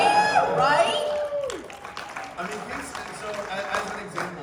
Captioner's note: cheers and applause